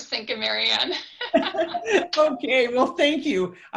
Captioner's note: laughs